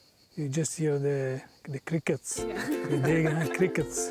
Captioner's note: all laughing